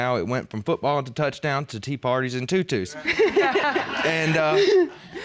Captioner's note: laughter